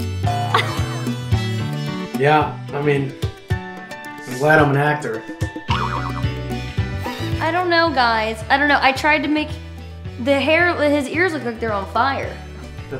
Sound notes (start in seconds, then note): 0.1 whimsical music; 0.3 Chloe laughing; 7.0 Jerry laughs